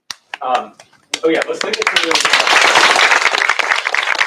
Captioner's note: applause